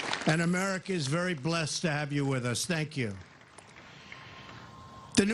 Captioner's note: applause